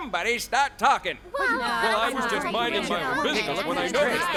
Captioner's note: crowd talking fast